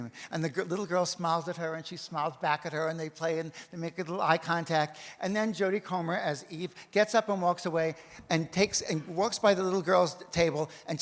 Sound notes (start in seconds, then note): none